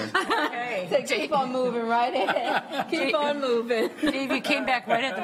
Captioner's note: laughter